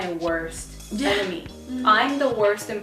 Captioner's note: chuckles